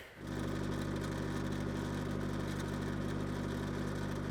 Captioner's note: skid steer engine roaring